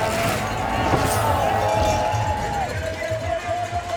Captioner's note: bell ringing